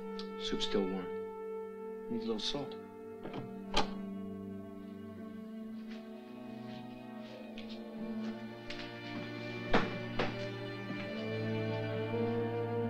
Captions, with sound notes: Soup's still warm. Needs a little salt. (door clicking) (dramatic music)